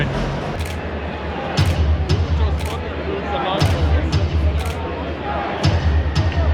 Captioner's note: crowd murmuring; drum beating